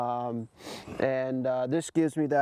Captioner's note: sniffs